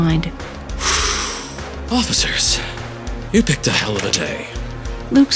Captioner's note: exhales